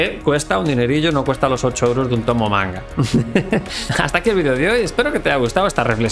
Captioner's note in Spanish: risas